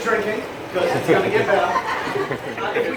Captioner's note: laughs